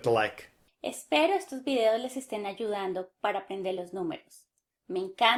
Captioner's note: in Spanish